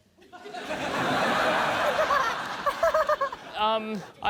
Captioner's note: laughter